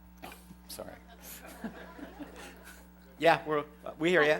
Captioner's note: laughter